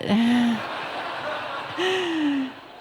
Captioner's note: laughter